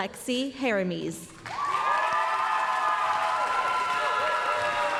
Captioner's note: applause, cheering